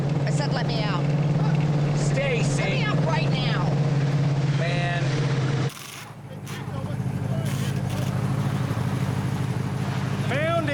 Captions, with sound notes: - I said, let me out. - Stacy... - Let me out right now! - Man. (tools whirring)